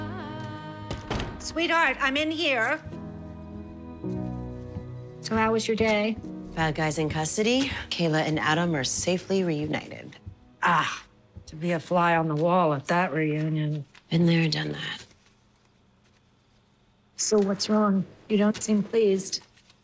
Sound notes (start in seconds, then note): 0.9 door closes; 0.9 door opens